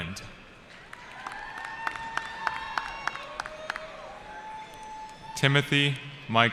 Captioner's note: cheering